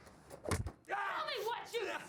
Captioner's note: screams